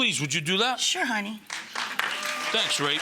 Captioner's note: audience applauding